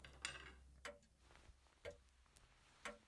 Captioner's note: grandfather clock ticking